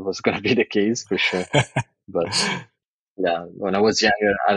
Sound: <Laugh>

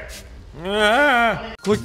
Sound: whimpering

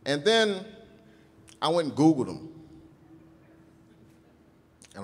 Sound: none

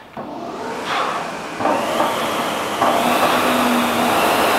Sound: machine humming

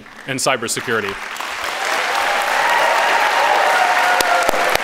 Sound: audience clapping

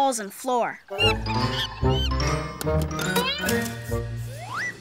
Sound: monkey screeching

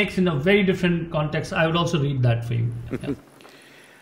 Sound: Sadhguru laughs

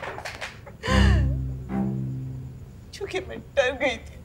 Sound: cries

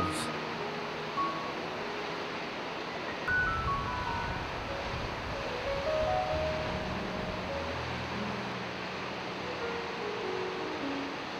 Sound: waterfall sounds and music background

